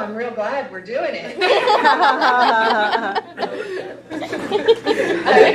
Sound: participants laughing

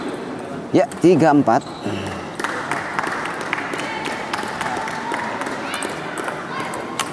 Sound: applause

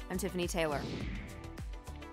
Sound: whoosh; sleek electronic music

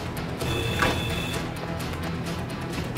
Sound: door buzzes

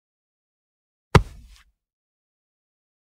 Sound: sound of punch

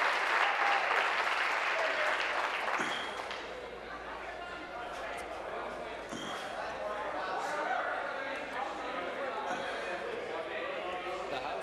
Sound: applause

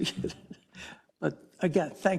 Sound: laugh

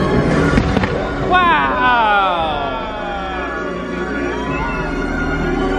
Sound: fireworks popping; dramatic music

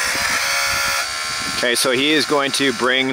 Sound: machine buzzing

